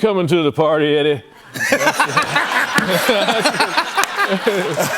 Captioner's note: laughter